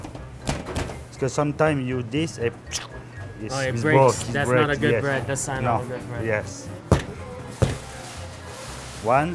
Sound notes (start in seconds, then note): 2.6 imitates tearing